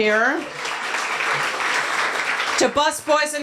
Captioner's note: applause